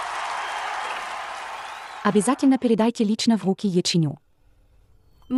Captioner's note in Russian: ликование